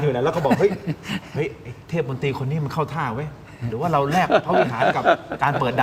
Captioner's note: laughter